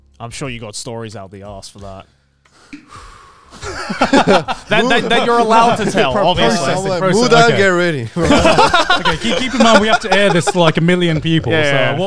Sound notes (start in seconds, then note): 2.6 sighs; 3.5 all laughing